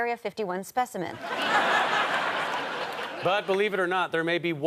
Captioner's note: audience laughter